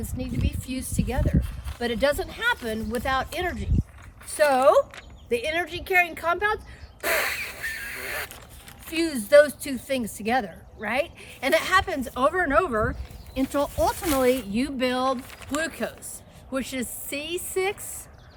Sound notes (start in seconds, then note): 7.0 noisily blowing